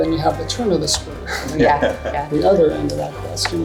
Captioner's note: laughs